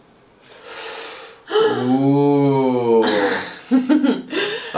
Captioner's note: laughs